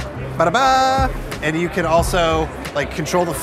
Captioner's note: hums